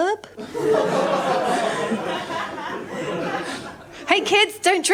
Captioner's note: laughter